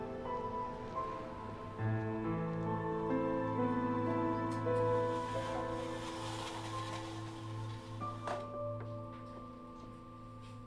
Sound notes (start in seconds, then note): 5.0 blinds rustling